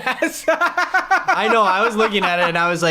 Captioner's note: laughter